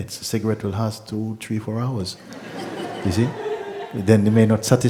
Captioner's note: laughter